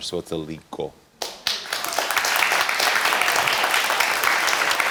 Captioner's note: audience applauding